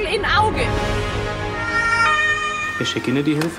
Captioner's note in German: Sirene